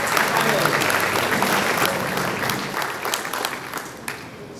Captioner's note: audience applauding